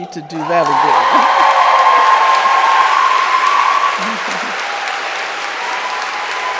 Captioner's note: audience cheering and applauding